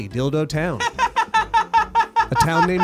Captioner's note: laughs